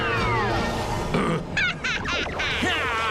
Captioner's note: laughs evilly